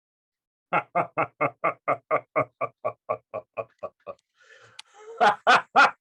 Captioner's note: demonic laugh